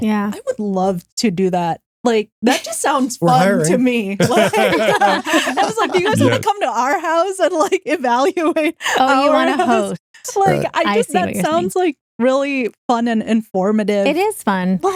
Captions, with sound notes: I would love to do that. Like that just sounds fun to me. (Both Laughing) I was like, do you guys wanna come to our house and like evaluate? Oh, you wanna host. I guess that sounds like really fun and informative. It is fun.